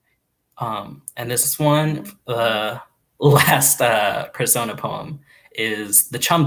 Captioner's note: laughs